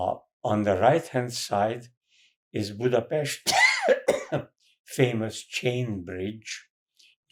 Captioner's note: coughing